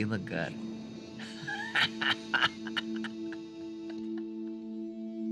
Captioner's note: laughter